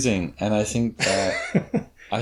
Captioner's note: laughs